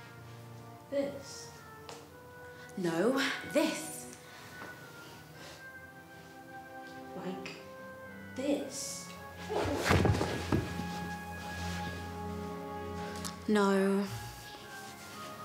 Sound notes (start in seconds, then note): 9.4 body thudding